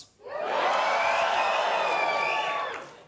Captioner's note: audience cheer